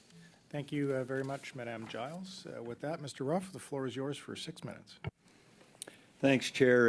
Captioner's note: speaking French